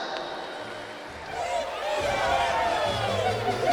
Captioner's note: applause